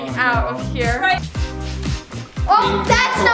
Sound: sniffs

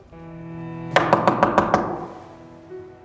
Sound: door knocking

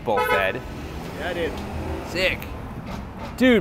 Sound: car horn beeps

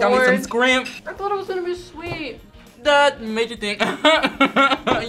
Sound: laughs

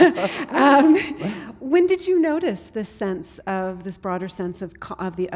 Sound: laughter

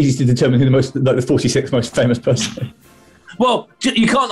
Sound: sniggering

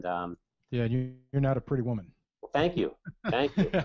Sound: voiceover

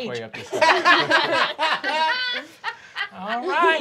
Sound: group laughing

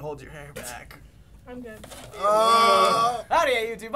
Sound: groaning

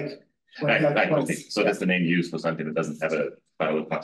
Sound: chuckles

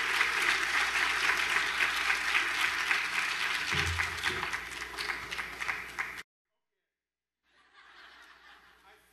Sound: applause

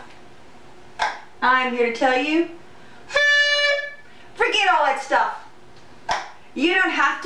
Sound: horn Blowing

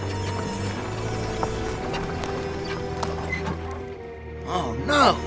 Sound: crickets chirping; sinister music; wheels squeaking

